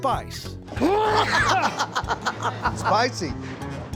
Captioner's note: laughter